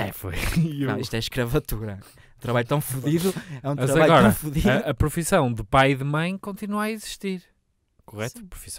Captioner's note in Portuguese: risos